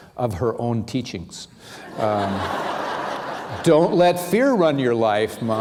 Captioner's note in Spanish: risas